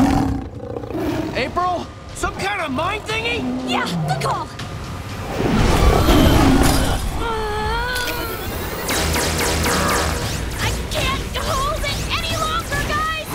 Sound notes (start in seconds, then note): 0.0 snarling; 6.8 grunting